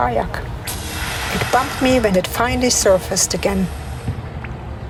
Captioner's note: manatee breathing